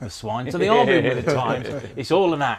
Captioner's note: laughs